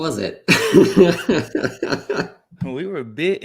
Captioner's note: laughter